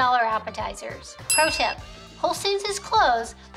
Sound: bell rings

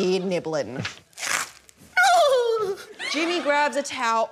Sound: wails; crunch!

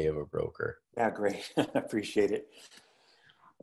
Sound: laugh

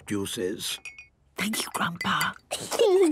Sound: Granny whispering; children giggling

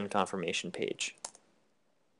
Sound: click

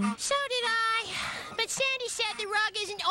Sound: sigh!

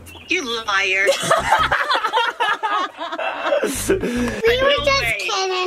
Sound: laughing

